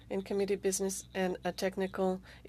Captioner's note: speaking french